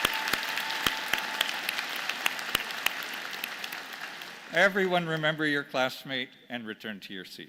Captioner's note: applause